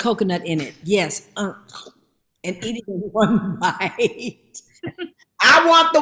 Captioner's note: laughs